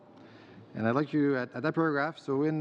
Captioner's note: speaking french